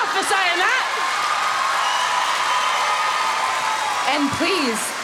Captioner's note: applause